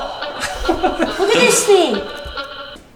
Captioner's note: man laughing